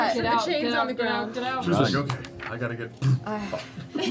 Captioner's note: poof